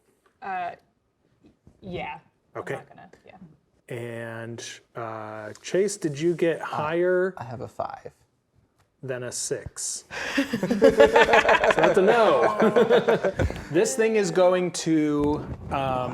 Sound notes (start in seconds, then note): 10.1 players laughing